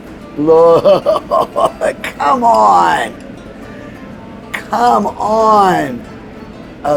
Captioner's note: laughs